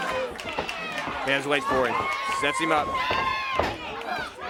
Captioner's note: crowd cheering